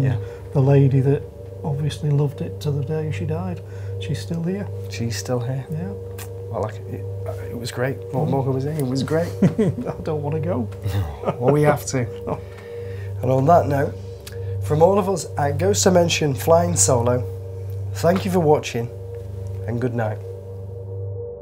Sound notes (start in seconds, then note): 10.8 laughs